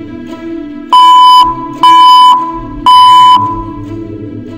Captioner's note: machine beeps again